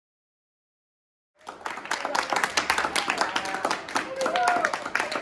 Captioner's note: audience applauding